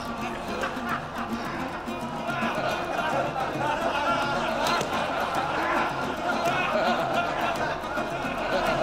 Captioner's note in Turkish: Gülme sesleri